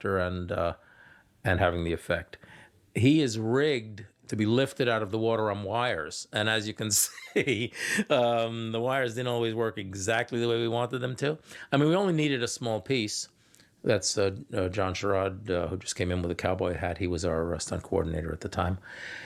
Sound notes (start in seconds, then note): 7.0 laughing